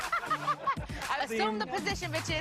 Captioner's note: laughter